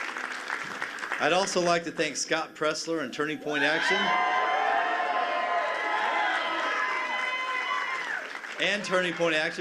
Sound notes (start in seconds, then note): 0.0 cheers and applause; 3.5 cheers and applause